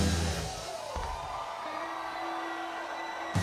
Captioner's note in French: cris d'enthousiasme